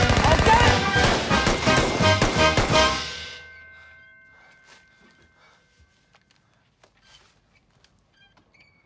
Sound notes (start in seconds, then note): 5.0 silence